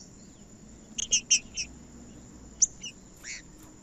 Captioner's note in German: trinca ferro cantando